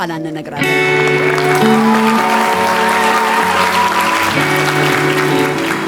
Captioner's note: applause